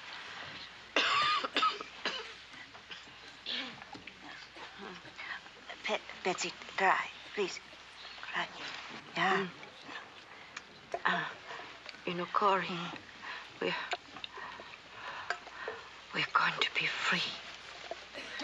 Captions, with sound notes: [coughing] BETSIE, TRY. . . PLEASE TRY. YEAH.